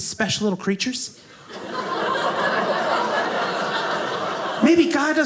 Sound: audience laughing

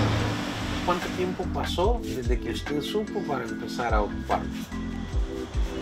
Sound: speaking Spanish; client speaking Spanish

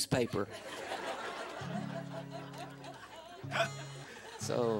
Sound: laughter

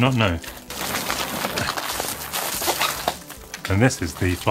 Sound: bubble wrap tearing

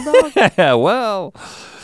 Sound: chuckles

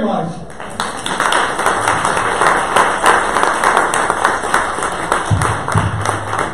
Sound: audience applause

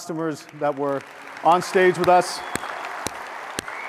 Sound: audience applauds

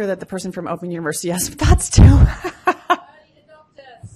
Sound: laughs

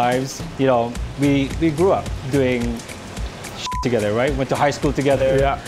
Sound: beep

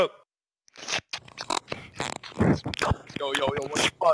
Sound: hamster eating noises

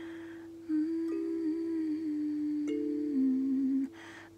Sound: humming

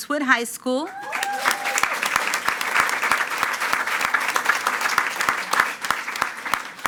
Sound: attendees cheering and clapping

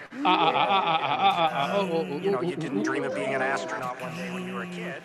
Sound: laughs

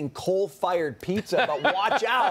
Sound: laughter

